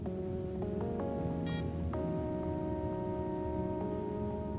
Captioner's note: watch beeps